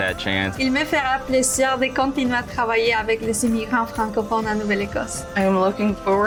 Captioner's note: woman speaking in French